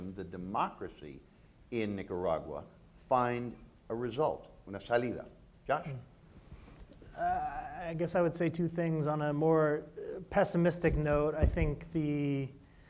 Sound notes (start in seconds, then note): 4.1 speaking in foreign language